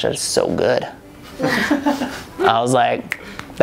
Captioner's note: crowd laughs